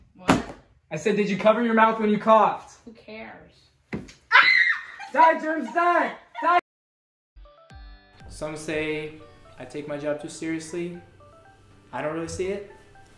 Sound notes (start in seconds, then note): 4.3 scream